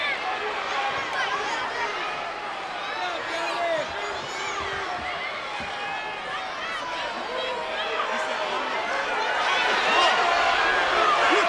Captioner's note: crowd cheering